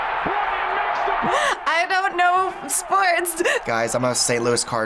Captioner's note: laughs